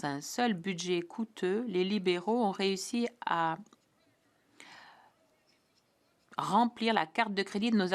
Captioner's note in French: voix de l'interprète